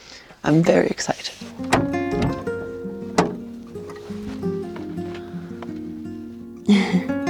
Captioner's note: gentle music; door clicks